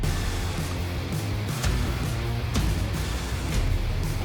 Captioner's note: slashing